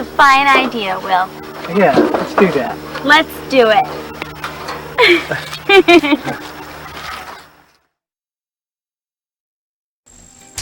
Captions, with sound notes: That's a fine idea Will. Yeah let's do that. Let's do it! [Laughter]